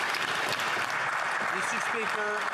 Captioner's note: some Applause